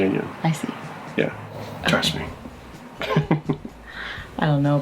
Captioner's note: laughs